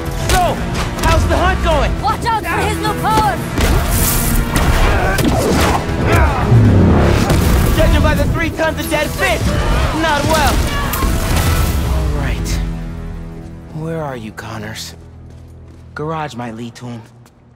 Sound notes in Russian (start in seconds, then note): 6.0 Кряхтит; 10.6 Кричит